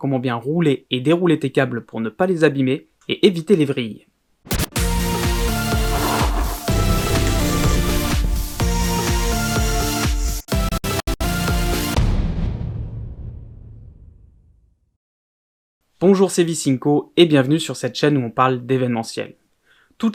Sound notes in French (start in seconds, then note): 5.4 Scratch; 12.0 Boum